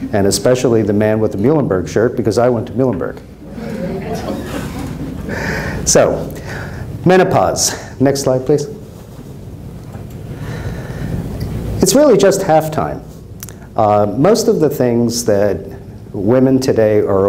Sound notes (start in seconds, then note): 3.4 crowd laughs